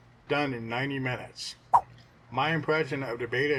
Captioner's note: swipe sound